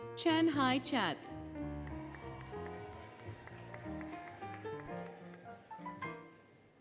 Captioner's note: applause, Cheering, Music